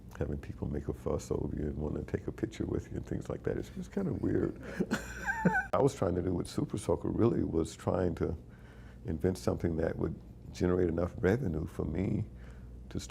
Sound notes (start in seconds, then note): 4.2 chuckling